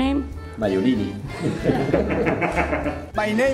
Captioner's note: laughing